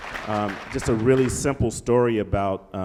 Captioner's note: applause